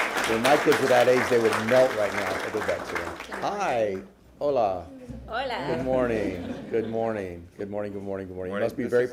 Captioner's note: applause